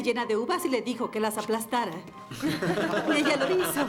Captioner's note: laughing